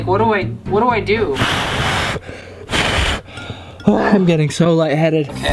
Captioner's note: blowing sounds